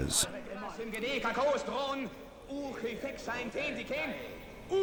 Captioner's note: people chanting in Greek